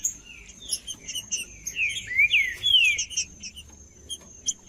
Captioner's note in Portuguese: trinca ferro cantando